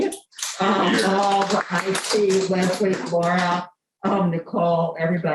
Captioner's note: applause